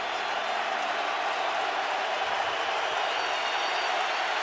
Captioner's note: crowd cheers